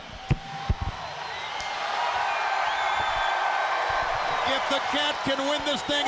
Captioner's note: crowd cheering